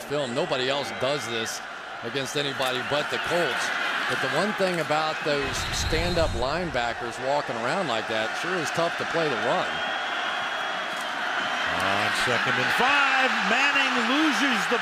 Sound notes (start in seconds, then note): 8.4 whistle